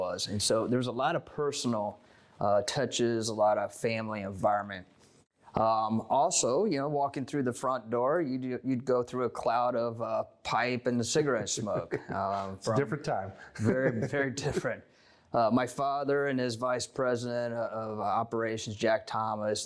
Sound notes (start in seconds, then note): 11.6 off screen voice - laughing